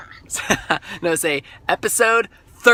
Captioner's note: laughter